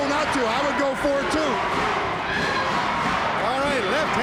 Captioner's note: audience chants